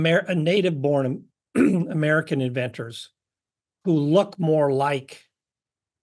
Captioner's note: cough